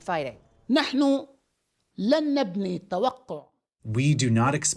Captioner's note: through translator